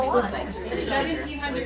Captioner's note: people chattering